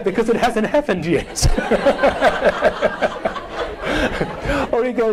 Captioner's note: all laughing